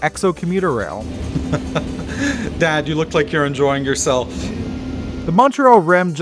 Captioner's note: laughter